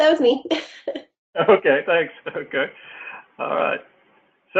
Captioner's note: laugh